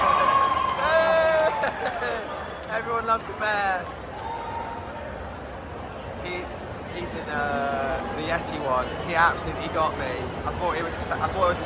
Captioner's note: cheers and clapping